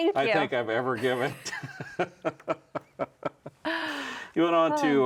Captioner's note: laughing